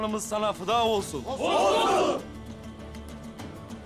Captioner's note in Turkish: Hep bir ağızdan